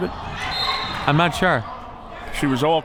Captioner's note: whistle